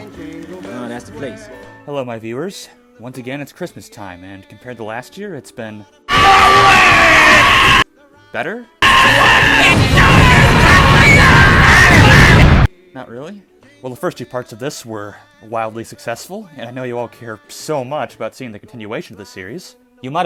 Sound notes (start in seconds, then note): 8.8 louder Earrape